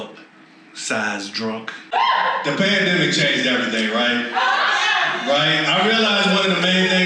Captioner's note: audience WHOOS